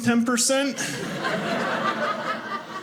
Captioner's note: audience laughing